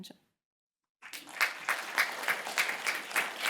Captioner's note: applause